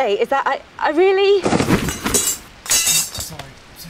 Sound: loud crash from behind

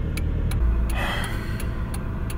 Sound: sigh

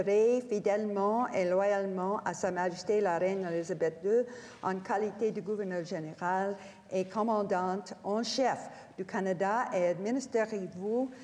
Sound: speaking French

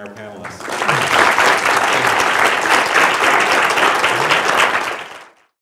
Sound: applause

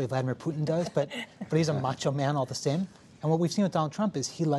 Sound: laughter

